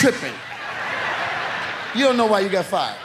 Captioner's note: audience laughs